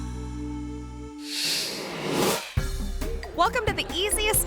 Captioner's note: screen whooshes